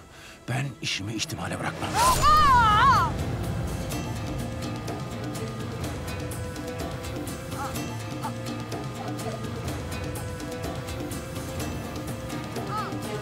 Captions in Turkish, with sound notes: Ben işimi ihtimale bırakmam. (Bağırma sesi) (Müzik - Gerilim)